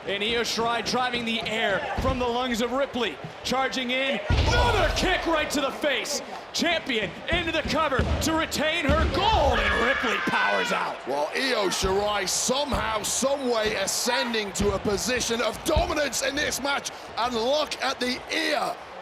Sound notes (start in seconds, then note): 9.4 Io screams